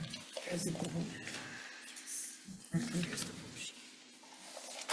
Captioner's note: indistinct conversation